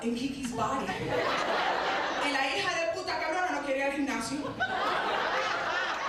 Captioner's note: speaking Spanish; audience laughing